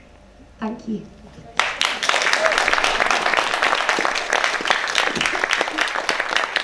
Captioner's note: applause